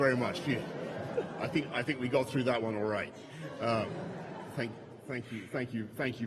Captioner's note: laughter